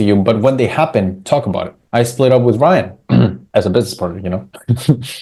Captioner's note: clears throat; chuckles